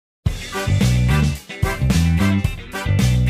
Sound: epic shopping montage noises

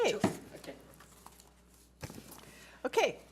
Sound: gavel bangs

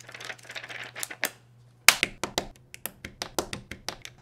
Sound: pages turn; Lego clicks

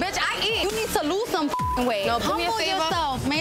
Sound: beep

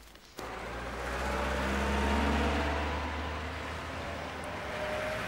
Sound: rustling; car engines running

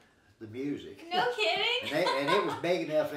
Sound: chuckling

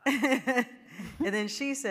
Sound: laughing; audience laughing

